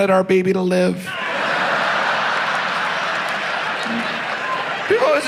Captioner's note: audience laughs